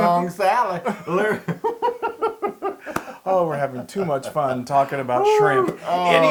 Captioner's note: laugh